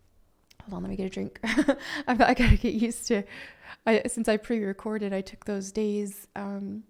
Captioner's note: laughs